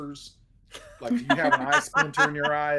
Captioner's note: everyone laughs